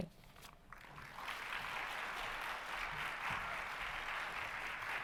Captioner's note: audience applauding